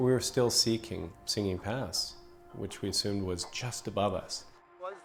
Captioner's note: voiceover